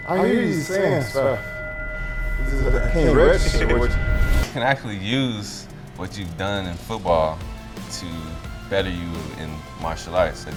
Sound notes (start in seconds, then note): 2.2 high pitched feedback sounds; 3.5 continuous echoes; 9.7 upbeat music